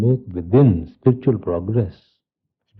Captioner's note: laughter from the group